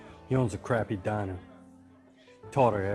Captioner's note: none